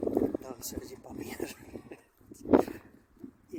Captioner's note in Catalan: Riu